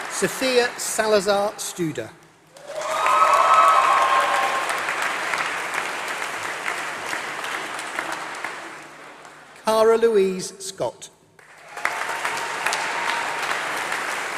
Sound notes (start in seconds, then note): 3.1 applause